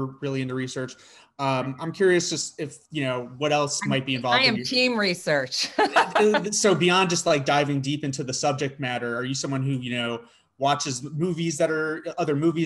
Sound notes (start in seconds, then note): 5.7 laughs